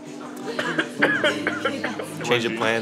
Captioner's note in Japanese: 咳き込み